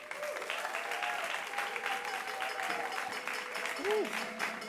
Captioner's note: audience claps